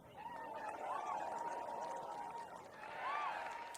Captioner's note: applause